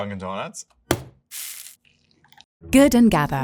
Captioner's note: bag thudding and coffee pouring